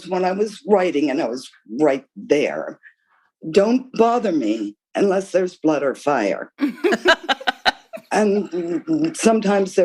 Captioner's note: laughter